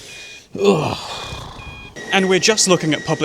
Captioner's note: general sounds of discontent